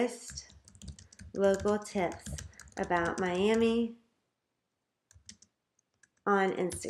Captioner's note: typing; typing